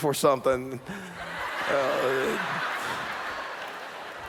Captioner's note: laughter